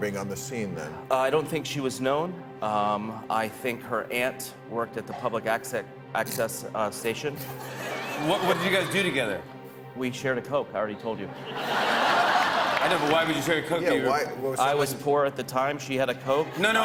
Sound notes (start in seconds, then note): 4.7 laughs; 7.4 laughter